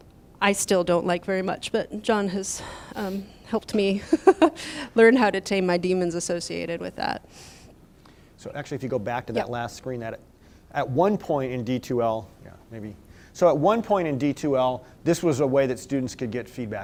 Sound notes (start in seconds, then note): 4.0 laughter